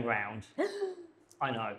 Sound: gasps

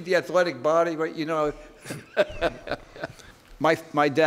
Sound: laughing

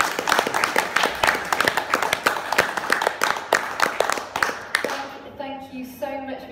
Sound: applause

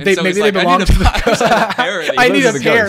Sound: all laugh

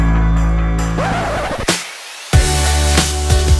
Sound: record scratching; upbeat music

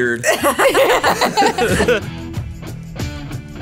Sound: all laughing

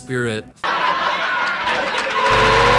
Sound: crowd Cheers, laughs

